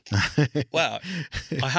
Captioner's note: laughs